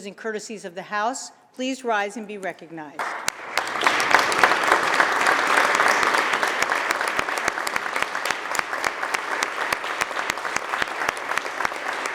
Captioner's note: applause